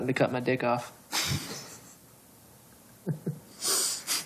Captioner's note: laughs